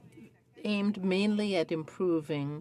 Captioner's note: speaking French